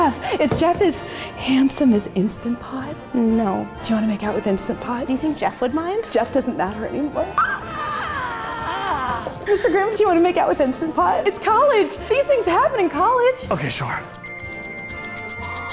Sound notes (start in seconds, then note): 7.3 excited squealing; 14.1 smooches